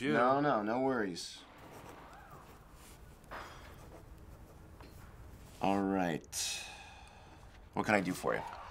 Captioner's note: silence